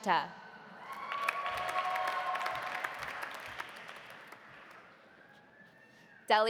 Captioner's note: audience cheering; audience applauding